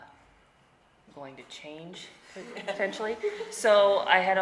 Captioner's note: laughing